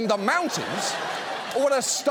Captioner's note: audience laughs